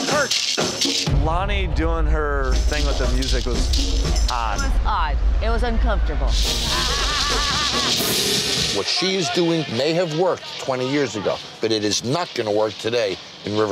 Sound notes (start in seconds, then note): 6.6 laughs menacingly